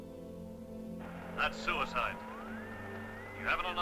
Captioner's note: radio static